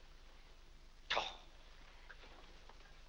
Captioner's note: Mr. Day huffs